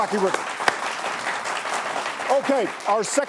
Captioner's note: applause